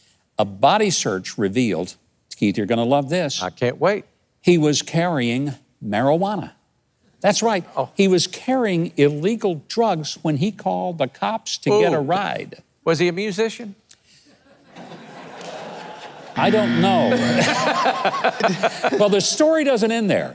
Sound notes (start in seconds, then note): 14.5 audience laughing; 16.4 buzzing; 17.4 laughing